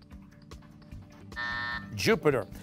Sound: buzzer

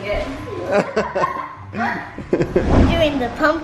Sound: laughing

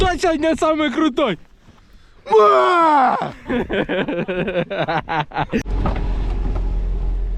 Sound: laughter

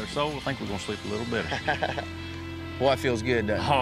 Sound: happy laughter

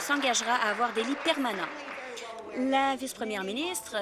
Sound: applause

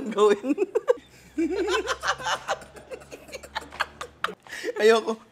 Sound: laughter; laughs

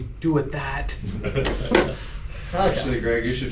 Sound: laughs

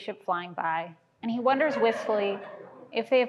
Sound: laughter

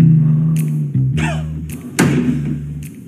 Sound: distant sobs

